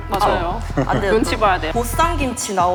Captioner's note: haha